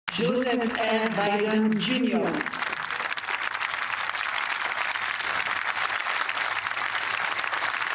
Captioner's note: speaking in a global language